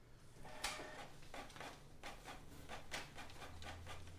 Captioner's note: printer whirring